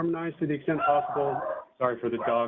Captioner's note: barking